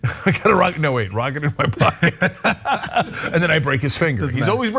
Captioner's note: laugh